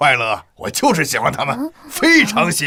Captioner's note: sighs